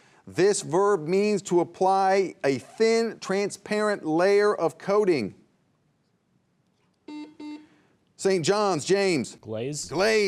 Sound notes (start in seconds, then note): 7.0 buzzer buzzing